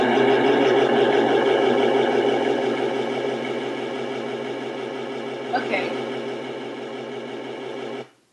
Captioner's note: eerie overlay of sounds and echoing voices